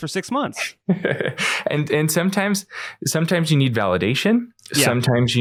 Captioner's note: laughs